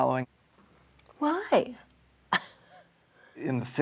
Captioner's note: laughs